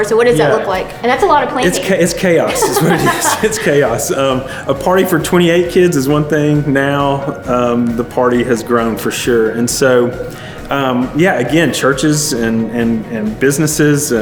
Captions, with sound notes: So what does that look like? And that's a lot of planning. - It's chaos. (laughs gently) It's what it is. It's Chaos. A party for 28 kids is one thing, now the party has grown for sure. And so yeah, again, churches and businesses